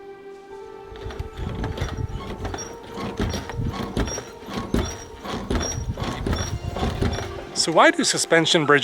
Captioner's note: squeaking